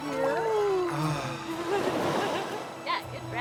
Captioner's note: all exhaling